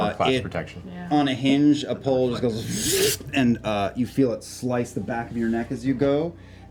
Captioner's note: whirring sound